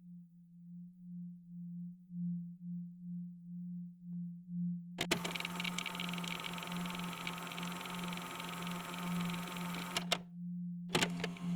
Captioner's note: tape recorder static and music begins